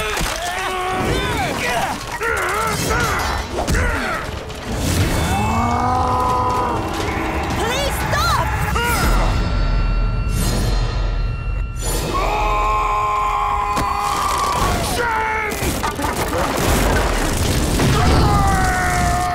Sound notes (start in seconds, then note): 0.3 grunting; 8.1 grunting; 12.0 screaming; 17.8 screaming